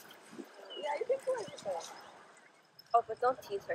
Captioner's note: lady in the background speaking